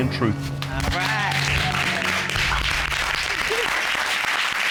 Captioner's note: applauding